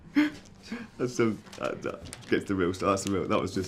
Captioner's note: stammers